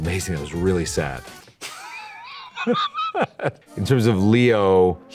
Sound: laughing

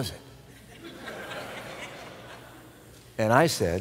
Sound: laughter

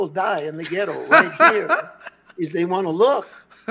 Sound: laughs

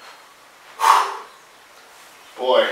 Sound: exhale

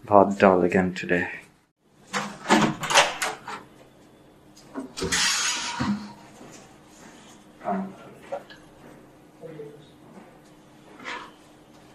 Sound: sounds of door opening then closing

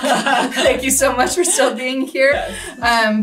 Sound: both laugh

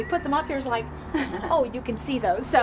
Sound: laughing

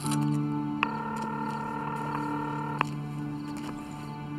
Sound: phone rings

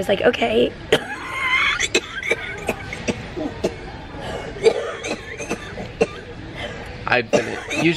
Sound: coughing

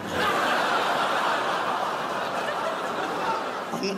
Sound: crowd laughs

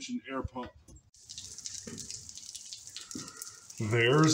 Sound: raining

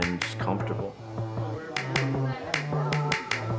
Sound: clippers buzzing

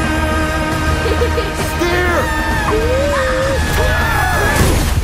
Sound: giggles; screaming

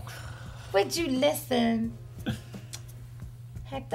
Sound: farts

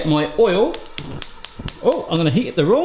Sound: stove heater popping

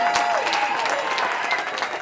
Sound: cheering

